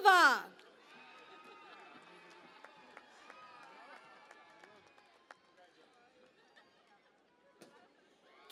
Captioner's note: cheering and Applause